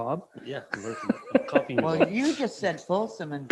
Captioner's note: mayor laughing